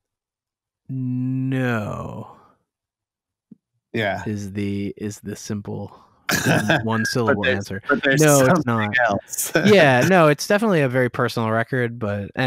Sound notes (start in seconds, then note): 6.3 laughter; 9.5 laughter